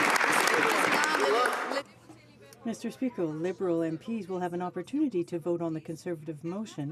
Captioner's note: some Applause